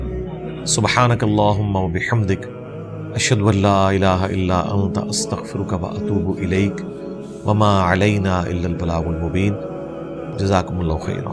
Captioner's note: Arabic